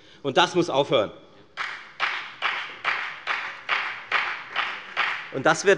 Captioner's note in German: Beifall bei der FDP